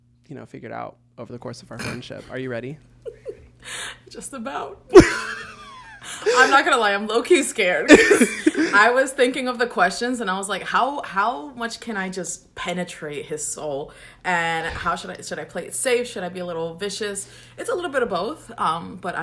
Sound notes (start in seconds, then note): 4.9 laughs; 4.9 both laugh